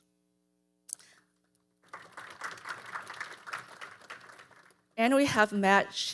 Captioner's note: audience applauding